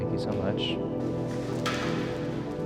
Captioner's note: chair clanking; gentle brooding music